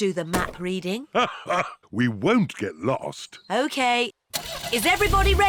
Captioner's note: laughs